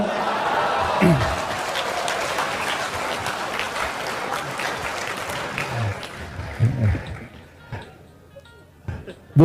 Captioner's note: applause